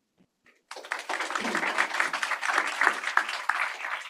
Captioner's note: applause